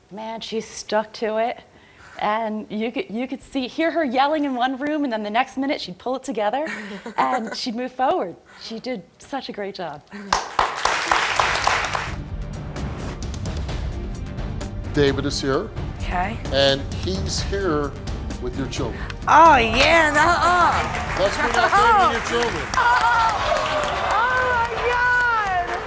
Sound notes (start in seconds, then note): 10.2 crowd applauding; 11.8 outro music; 19.8 crowd cheering